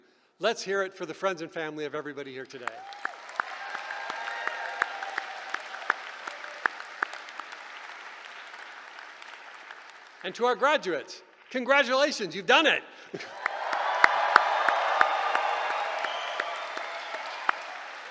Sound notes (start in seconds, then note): 2.6 applause; 13.2 cheering